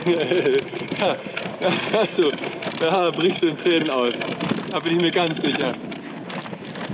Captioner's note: laughs